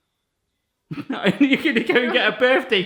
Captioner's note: laughing